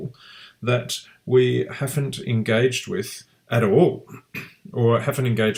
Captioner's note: clears throat